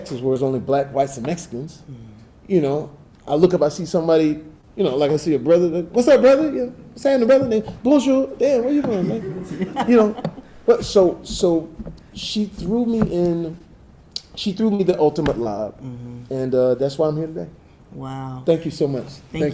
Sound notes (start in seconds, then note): 7.8 Jamie speaks in foreign language